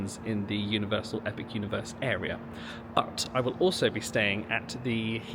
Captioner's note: none